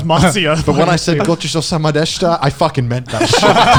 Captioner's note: speaking in foreign language